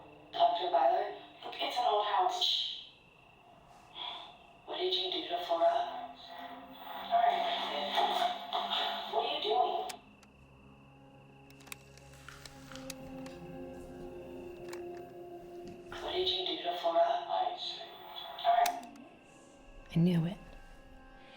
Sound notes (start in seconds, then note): 12.2 tape whirring; 14.3 recorder clicks; 18.5 recorder clicks